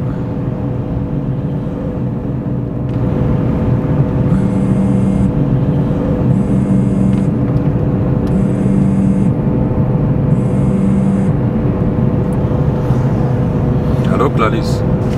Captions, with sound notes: (phone ringing) Hey Clarisse